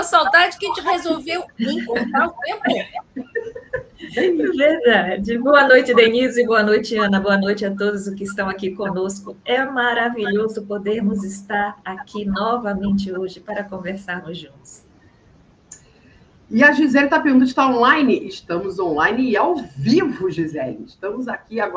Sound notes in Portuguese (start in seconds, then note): 0.1 risadas